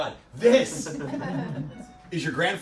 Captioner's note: audience laughs